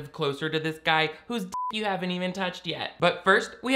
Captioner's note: beep